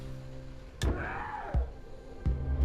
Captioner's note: Yongnam screams; suspenseful music